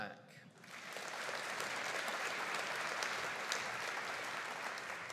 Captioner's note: audience applauding